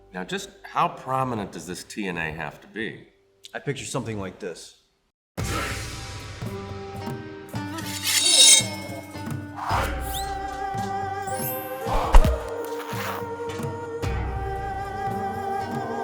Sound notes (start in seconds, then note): 5.5 eastern music; 7.8 sword scrapes